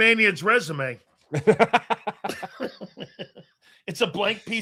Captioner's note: laughing